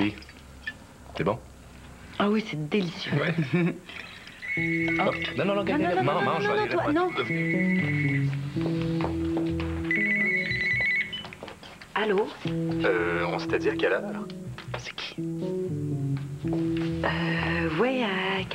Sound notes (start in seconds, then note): 4.3 Le téléphone sonne